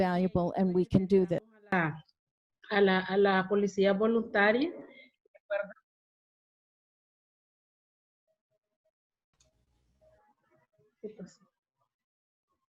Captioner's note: Spanish